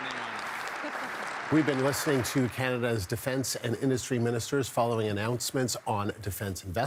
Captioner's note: applause